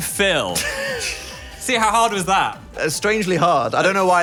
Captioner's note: both laugh